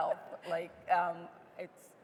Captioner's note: laughing